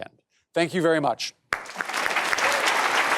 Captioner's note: applause